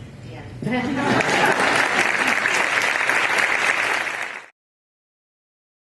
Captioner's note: applause